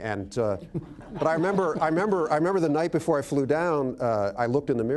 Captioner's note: laughter